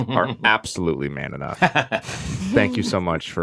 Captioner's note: Paul laughs